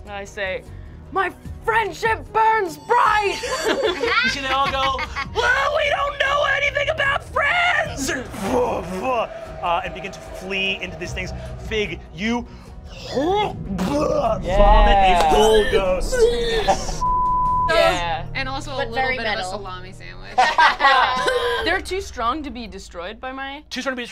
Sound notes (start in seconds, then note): 3.2 laughing; 13.6 gags; 16.0 gags; 17.0 beep